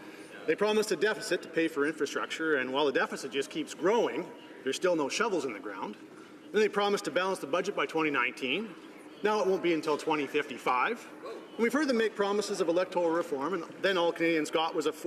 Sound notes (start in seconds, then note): none